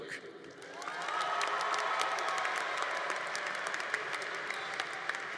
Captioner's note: congregation applauding